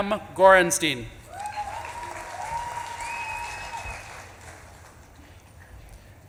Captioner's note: audience claps and cheers